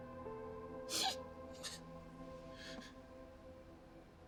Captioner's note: Izzie sobbing